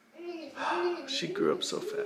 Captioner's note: baby mumbling